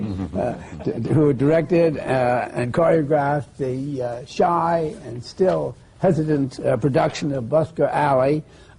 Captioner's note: laughs